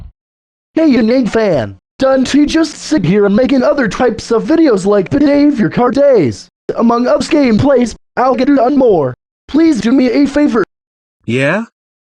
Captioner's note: In His Mad Self/In Kidaroo’s Voice